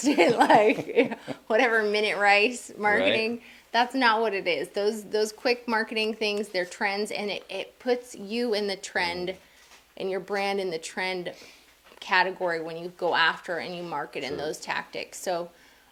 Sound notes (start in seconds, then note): 0.0 laughing